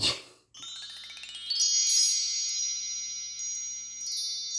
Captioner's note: chime sounds